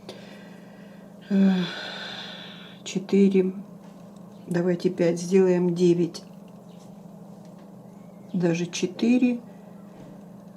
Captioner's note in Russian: вздыхает